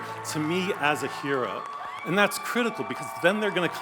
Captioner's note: audience cheers